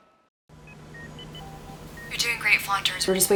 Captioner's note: monitors Beeping; Sinclair, over intercom